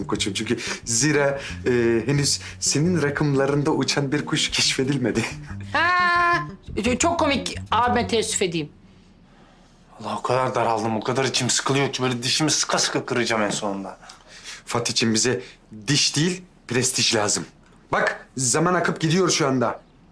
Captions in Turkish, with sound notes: Çünkü zira henüz senin rakımlarında uçan bir kuş keşfedilmedi. (Gülme sesi) Çok komik, abime teessüf edeyim. Valla o kadar daraldım, o kadar içim sıkılıyor ki... ...böyle dişimi sıka sıka kıracağım en sonunda. Fatihciğim bize diş değil, prestij lazım. Bak zaman akıp gidiyor şu anda.